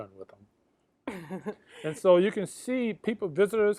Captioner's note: chuckles